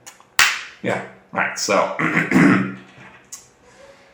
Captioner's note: clears throat